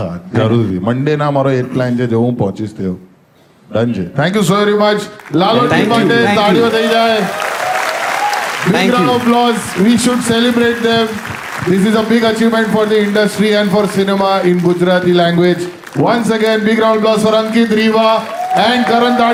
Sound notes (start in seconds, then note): 7.3 crowd applauding